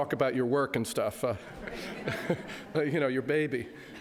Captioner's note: audience laughs